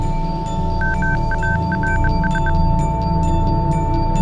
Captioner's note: satellite beeping